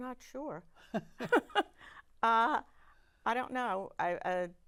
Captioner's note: laughing